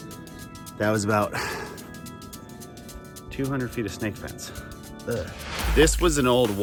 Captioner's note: groans